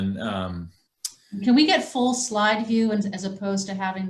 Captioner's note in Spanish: mujer, voz superpuesta